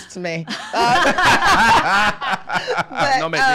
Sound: laughing

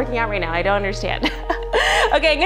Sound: laughs

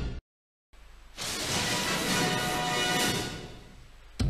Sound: electricity zapping as rousing fanfare plays; dramatic sounds

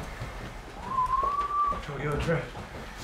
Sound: whistles

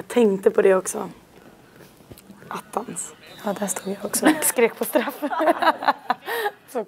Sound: both laugh

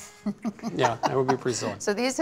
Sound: laughs

